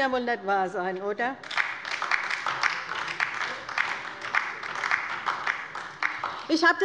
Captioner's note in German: Beifall bei der LINKEN